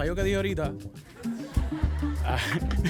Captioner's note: audience laughs